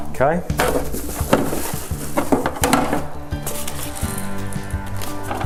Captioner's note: packaging banging